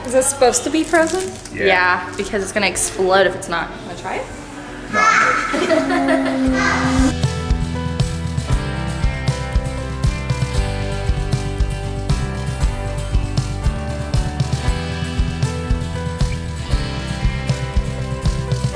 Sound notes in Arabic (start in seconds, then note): 4.9 مجموعة تضحك; 7.0 موسيقى إيقاعية ناعمة